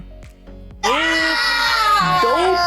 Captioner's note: groaning